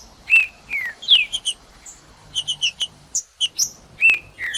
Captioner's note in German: trinca ferro cantando; trinca ferro cantando